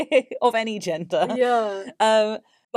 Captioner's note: laughs